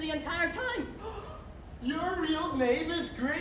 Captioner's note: gasps